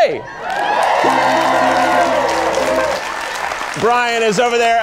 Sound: audience cheering

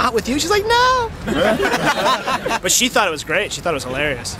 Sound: laughter

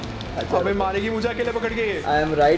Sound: speaking foreign language

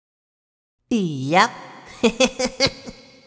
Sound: giggles

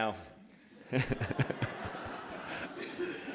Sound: laughter

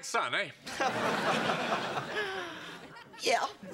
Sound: laughs

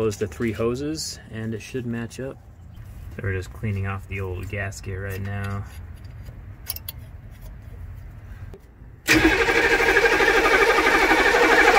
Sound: engine sounds

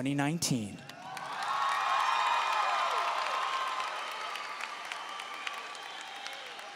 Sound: audience cheering and applauding

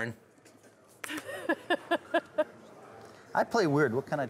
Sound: laughing

